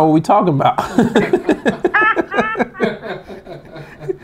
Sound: laughing

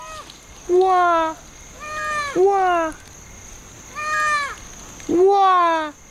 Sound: mimicking lemur calls

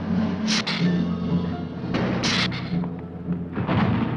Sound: hissing

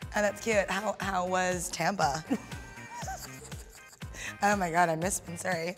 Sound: laughs

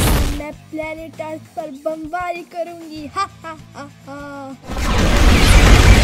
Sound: ha Ha Ha

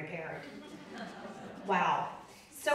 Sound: audience laughing

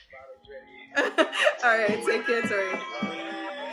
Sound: Winnie laughs

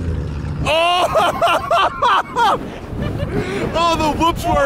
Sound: laughing

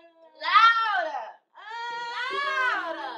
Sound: Lisa moaning; both moaning

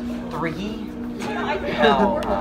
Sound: laughter

